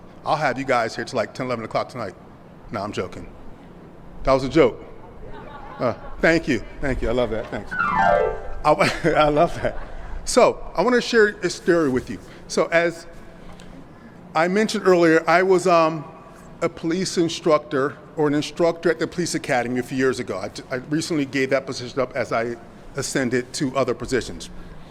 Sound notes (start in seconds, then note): 5.0 audience laughs; 8.8 laughs